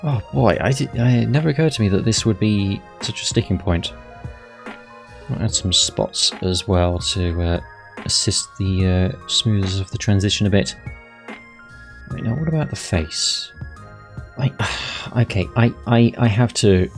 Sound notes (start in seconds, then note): 14.6 sigh